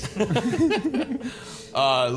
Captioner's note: laughing